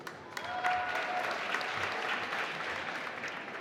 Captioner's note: applause